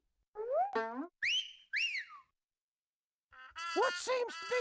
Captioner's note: Elmer whistling